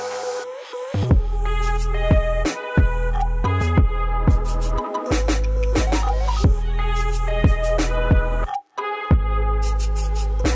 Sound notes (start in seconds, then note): none